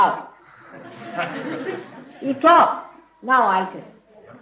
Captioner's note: laughter